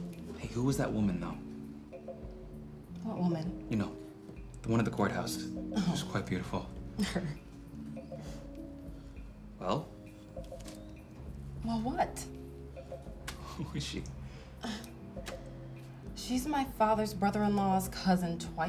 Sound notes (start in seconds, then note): 7.0 scoffs; 13.6 laughing; 14.2 sighs